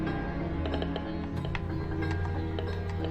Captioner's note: device crackling